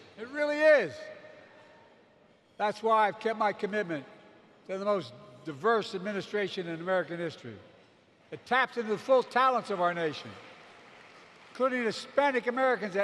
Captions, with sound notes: It really is. That's why I've kept my commitment to have the most diverse administration in American history that taps into the full talents of our nation -- (applause) -- including Hispanic Americans